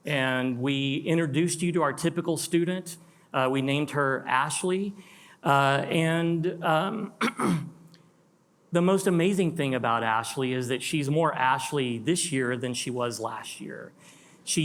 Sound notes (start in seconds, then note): 7.0 clears throat